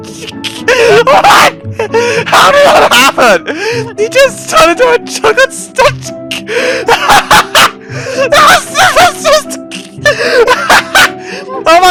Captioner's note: demonic laughing